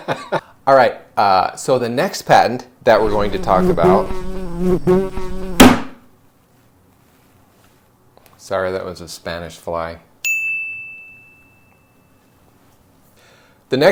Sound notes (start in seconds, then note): 2.9 fly buzzing; 10.4 bell rings